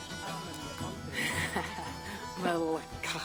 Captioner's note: laughs